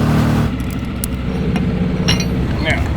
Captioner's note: fastener clicking